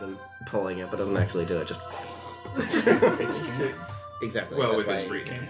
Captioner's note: guttural noise